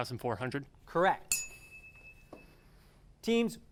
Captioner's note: ding